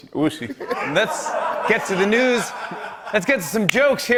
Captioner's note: laughter